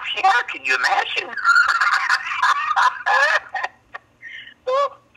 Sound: laughs

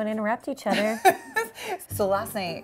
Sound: chuckles

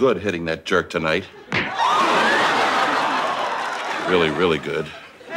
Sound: audience laughing

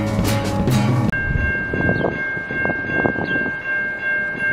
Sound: railroad crossing noises

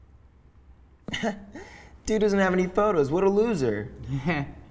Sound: laughs; chuckles

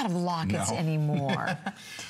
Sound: laughter

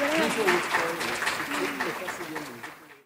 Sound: speaking in Spanish

